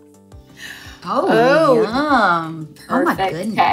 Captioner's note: gasps